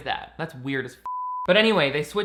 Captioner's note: beep